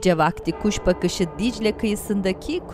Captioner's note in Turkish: Çan sesi